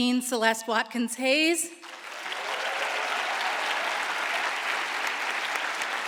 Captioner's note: audience applauds